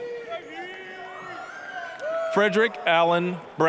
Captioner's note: applause, cheering